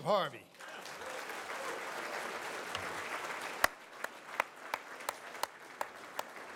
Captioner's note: audience applauds